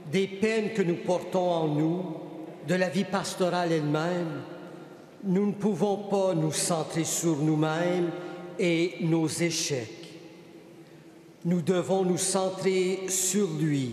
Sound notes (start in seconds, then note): 1.0 speaking French